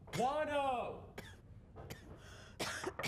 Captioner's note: coughing